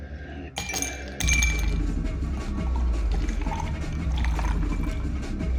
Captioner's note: ice cubes clink, liquid pours